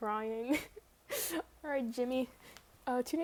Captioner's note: inhales